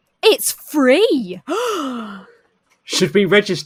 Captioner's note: gasps